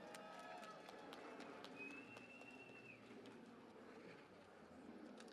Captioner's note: cheering and Applause